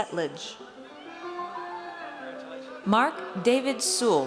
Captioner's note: audience cheers